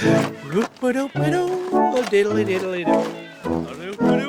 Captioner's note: humming